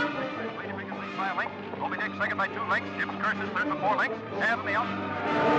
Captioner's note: sound of radio show; suspenseful music; sirens blaring